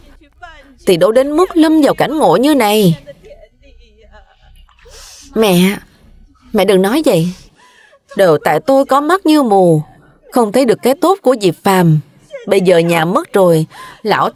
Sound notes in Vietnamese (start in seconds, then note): 4.4 khịt mũi